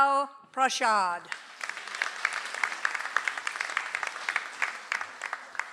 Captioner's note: audience applauds